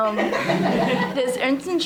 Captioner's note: audience laughing